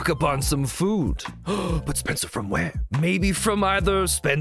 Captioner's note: gasp